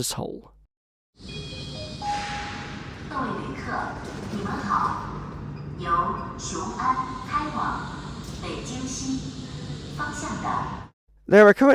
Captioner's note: Mandarin Chinese announcement for incoming train